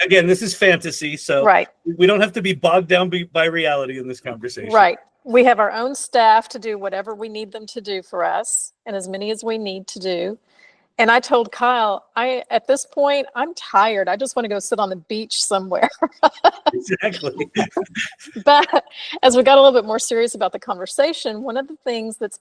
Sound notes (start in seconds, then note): 16.0 laughs